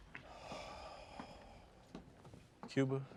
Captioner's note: sighs